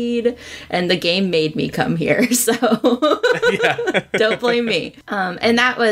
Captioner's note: laughs